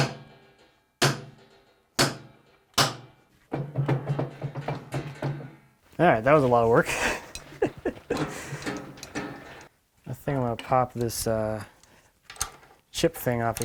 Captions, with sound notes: (metal jiggling) There, that was a lot of work (chuckles). I think I'm gonna pop this chip thing off of here